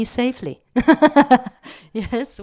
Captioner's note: laugh